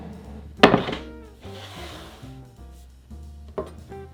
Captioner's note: board sliding